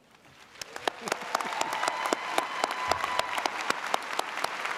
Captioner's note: audience applauding